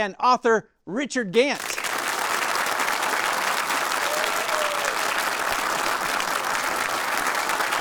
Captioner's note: audience applauding